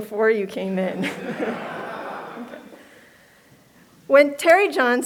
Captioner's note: laughter